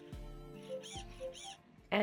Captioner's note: gentle Aibo noise